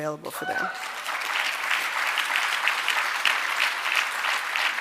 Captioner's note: audience applauding